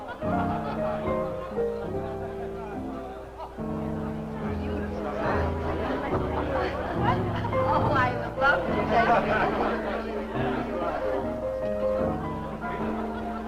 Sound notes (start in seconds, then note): 3.2 guests chatting